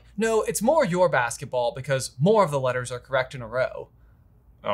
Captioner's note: none